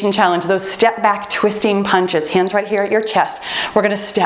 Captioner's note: timer beeps